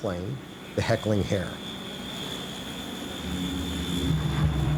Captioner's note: engines running